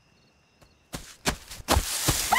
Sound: steps in the leaves approaching the tent quickly

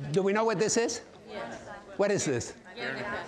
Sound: audience murmuring

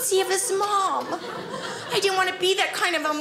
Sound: audience laughing

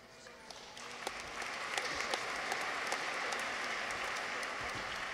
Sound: audience applauds

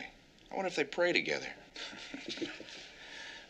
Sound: both chuckle

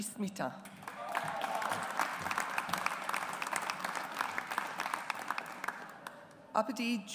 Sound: audience applauds

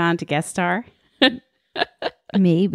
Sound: laughs

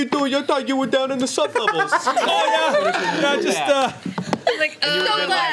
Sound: overlapping chatter

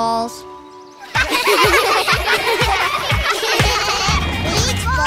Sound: laughing

